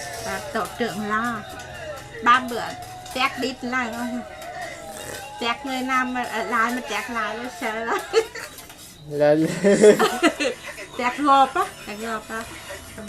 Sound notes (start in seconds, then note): 9.3 laugh